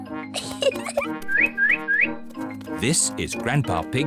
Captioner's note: giggles; bird tweets